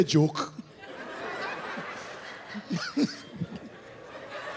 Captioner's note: audience laughs